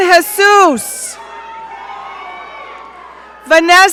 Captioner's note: audience cheering